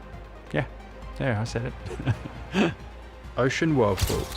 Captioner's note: laughs